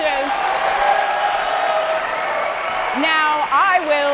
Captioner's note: audience applauding